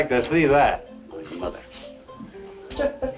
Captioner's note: muttering